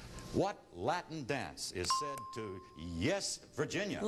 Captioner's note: ding